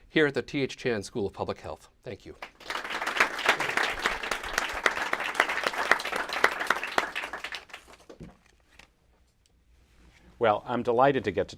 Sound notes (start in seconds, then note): 2.3 applause